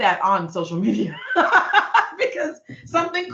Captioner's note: laughing